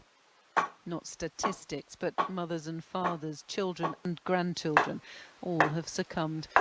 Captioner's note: TV sound in background